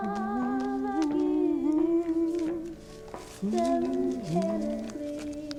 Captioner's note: humming along